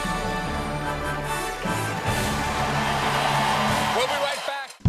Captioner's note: cheers and applause